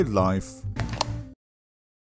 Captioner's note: reasonably loud lightswitch turn-off sound